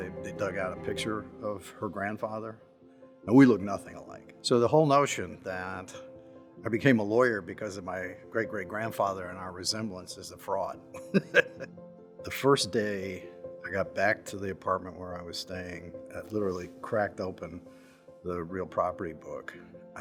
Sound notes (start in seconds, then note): 11.1 laughs